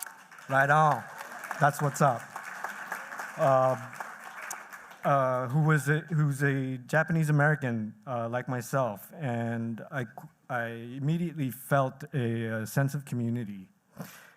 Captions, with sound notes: -Right on. That's what's up. [applause] -Who was a Japanese-American like myself. I immediately felt a sense of community.